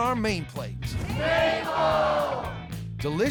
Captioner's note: everybody shouting